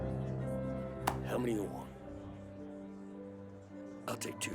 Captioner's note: slapping the table